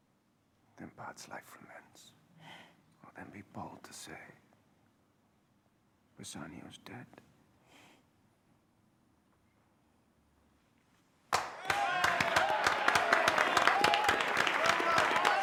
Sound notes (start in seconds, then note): 11.3 cheering